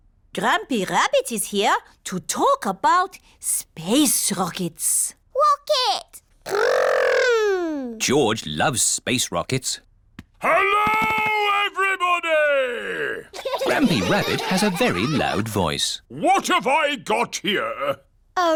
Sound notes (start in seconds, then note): 10.5 shouts; 13.3 laughter